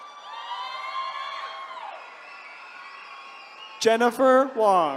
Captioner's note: attendees cheering